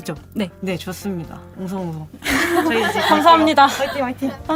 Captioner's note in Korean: 웃음